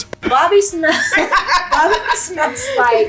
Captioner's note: laughing